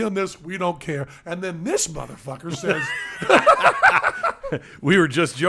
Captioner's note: laughs